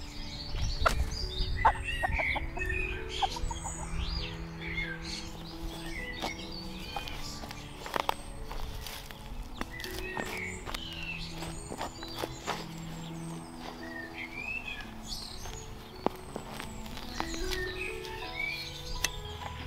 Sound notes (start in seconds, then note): 1.5 chickens cluck; 9.6 ground crunches and pops